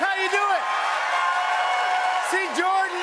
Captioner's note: cheers and applause